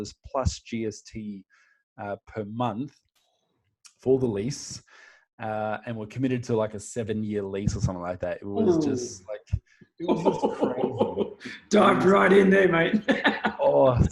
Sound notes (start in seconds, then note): 10.0 laughing